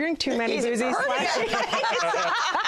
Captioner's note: laughter